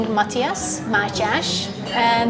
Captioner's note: Hungarian